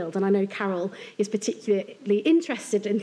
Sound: none

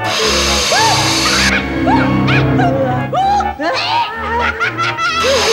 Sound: mocking

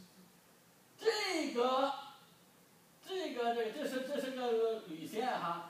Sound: speaking foreign language

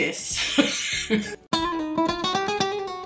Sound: laughs; upbeat music

